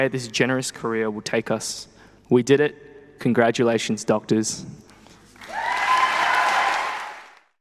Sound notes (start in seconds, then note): 5.3 people clapping; 5.4 people cheering